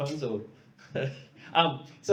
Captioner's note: laughs